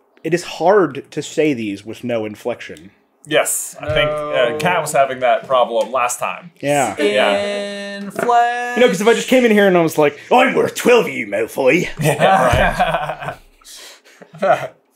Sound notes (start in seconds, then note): 11.9 laughter